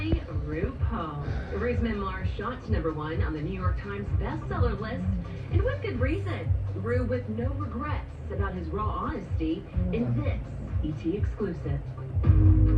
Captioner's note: TV continues playing